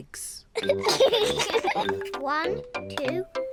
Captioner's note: both giggle